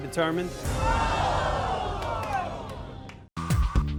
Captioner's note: audience groans